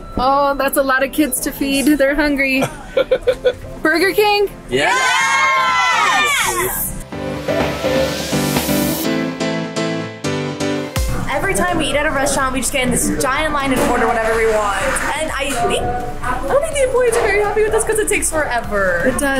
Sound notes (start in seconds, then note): 2.6 laughs; 7.1 upbeat music